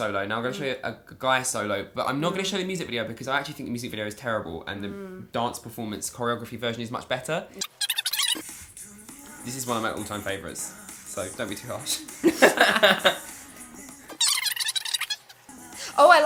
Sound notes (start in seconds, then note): 8.3 K-pop music; 12.0 all laughing